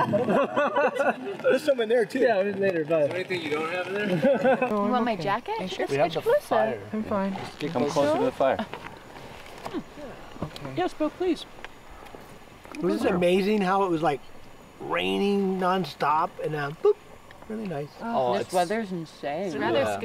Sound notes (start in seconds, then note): 0.0 laughing; 4.0 laughing; 6.0 all chattering